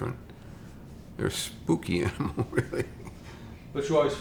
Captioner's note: chuckles